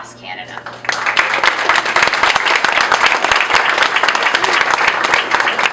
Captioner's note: applause